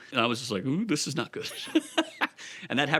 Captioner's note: laughs